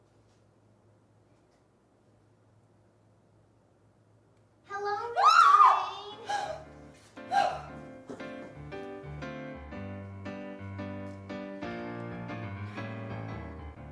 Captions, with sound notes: - Hello, Ms. Lorrain. (screams) (soft music)